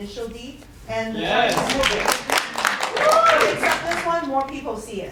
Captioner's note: audience vocal appreciation and applause